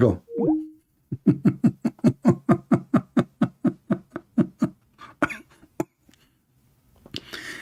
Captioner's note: Ketawa